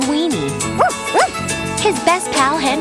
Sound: barks

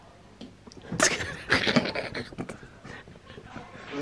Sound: laughing

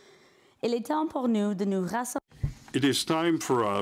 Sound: speaking in French

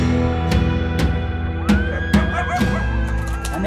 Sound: coyotes howl

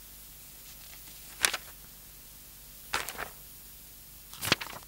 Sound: papers rustling

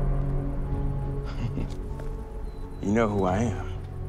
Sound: chuckles

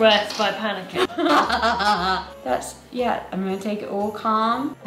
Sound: laughs

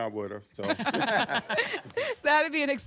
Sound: laughter

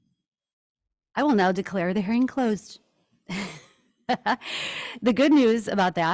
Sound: laughs

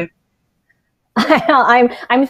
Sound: laughs

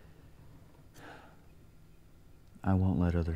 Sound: sighing

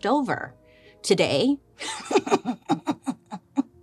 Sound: laughs

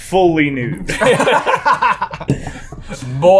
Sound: laughs

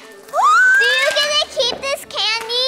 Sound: squealing

